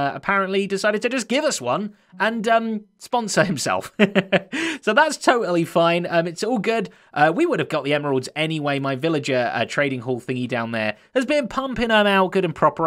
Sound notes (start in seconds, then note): 3.9 chuckles